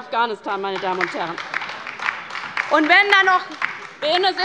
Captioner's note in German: Beifall bei der LINKEN